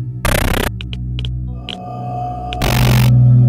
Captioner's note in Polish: tykanie licznika Geigera